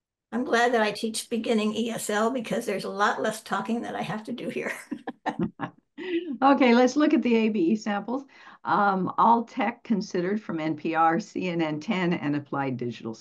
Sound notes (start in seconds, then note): 4.6 laughter